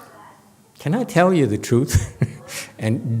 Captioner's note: laughs